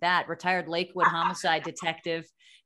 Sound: laughing

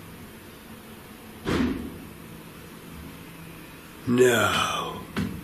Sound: door slams

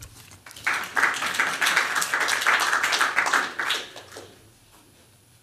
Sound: applause

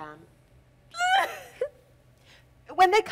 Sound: Natasha softly sobs

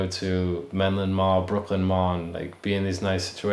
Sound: speaking native language

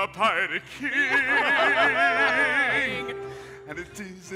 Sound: all laughing

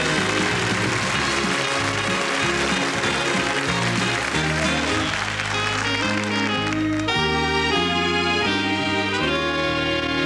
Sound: applause

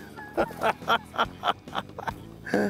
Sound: chuckles

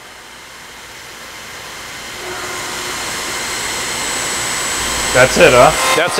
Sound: sound of machine

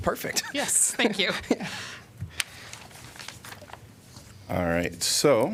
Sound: laughter

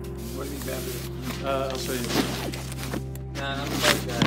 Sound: rustling sounds

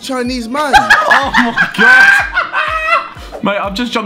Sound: students laughs

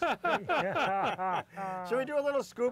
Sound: laughter

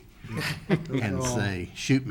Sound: chuckling

